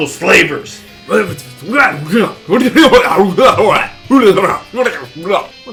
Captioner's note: speaking alien language